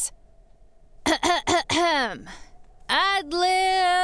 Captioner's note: clearing throat